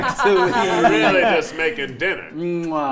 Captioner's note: players laughing